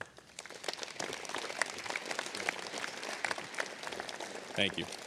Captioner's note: applause